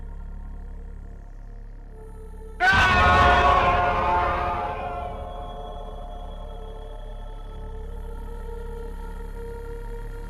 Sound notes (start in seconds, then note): 2.6 man screaming